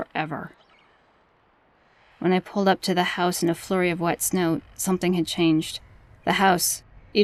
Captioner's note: low drone sounds fade in